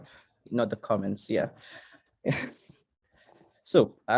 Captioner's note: chuckles